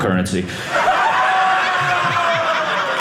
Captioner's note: audience laughing